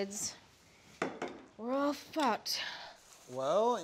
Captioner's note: sighs